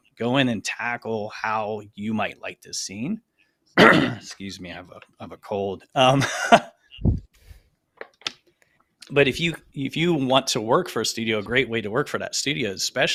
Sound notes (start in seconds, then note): 3.8 clears throat